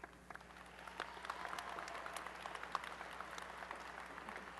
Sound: applause

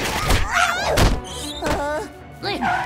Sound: grunting

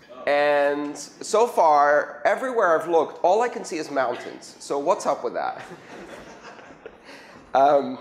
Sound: laughter

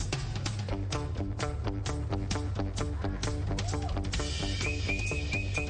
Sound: whistling

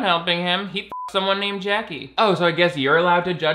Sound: beep

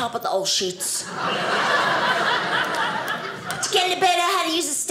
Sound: audience laughing

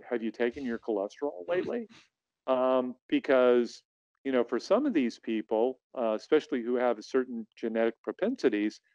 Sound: chuckles

